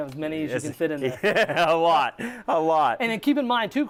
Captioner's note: laughs